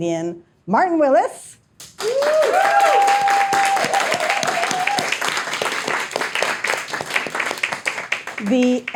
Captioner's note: audience applauding, cheering